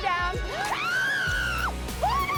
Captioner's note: screams